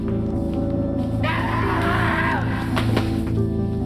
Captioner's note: screaming